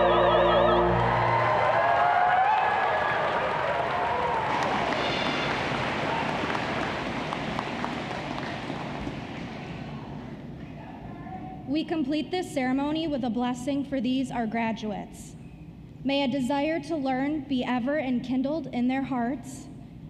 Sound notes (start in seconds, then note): 6.0 applause